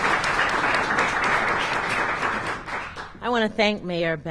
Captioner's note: applause